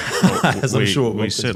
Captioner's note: laughing